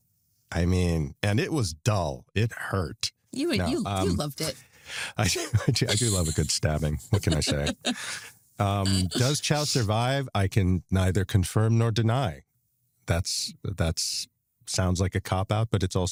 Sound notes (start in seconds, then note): 5.0 chuckles